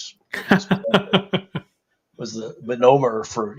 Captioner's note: laughs